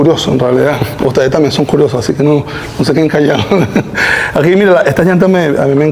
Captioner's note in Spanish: risas